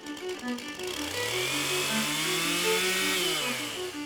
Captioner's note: chainsaw whirring